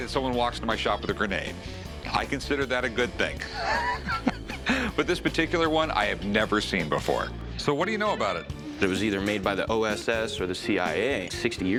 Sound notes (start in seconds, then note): 3.4 laughs